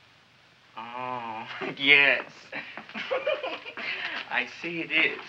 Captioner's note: chuckles